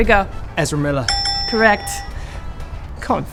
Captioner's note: bell rings